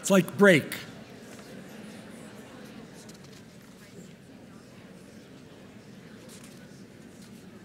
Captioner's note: audience murmuring